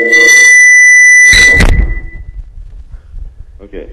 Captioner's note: call echoing; microphone feedback